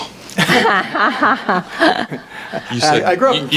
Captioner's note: audience laughs